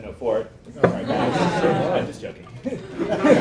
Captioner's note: laughter